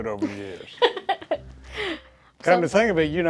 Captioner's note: laughs